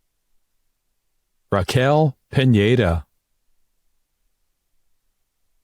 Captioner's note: none